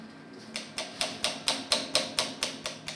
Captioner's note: hammering